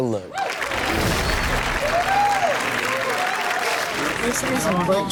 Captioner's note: audience cheers